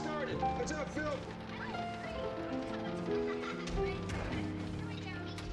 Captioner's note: chatter